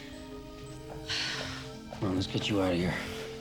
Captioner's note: sighs